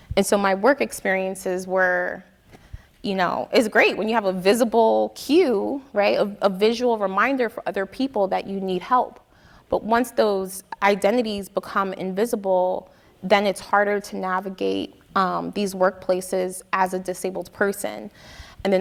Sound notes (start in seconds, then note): none